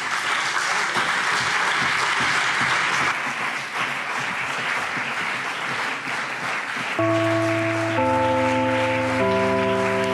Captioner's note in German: Beifall CDU und BÜNDNIS 90/DIE GRÜNEN